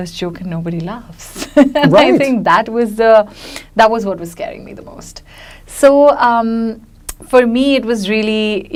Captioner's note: laughs